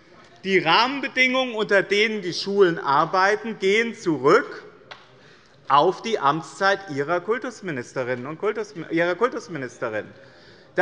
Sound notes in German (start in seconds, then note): none